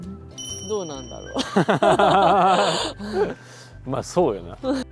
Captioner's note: laughs